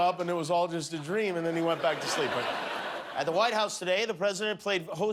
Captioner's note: laughter